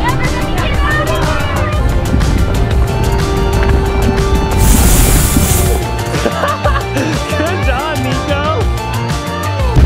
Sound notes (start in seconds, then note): 6.0 laughs